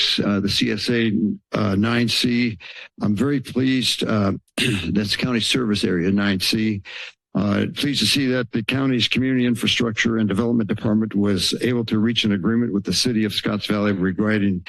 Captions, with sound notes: uh, the CSA, uh, 9C, I'm very pleased uh, [clearing throat] that's county service area- 9C... uh, pleased to see that the county's community infrastructure and development department was able to reach an agreement with the City of Scotts Valley regarding